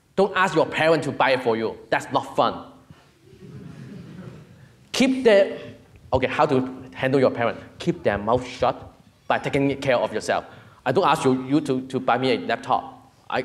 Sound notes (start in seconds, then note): 3.2 audience murmuring